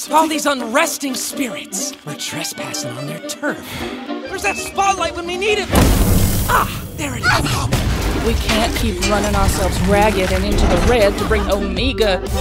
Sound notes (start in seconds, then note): 5.8 light bloom sound; 7.7 gunshot sound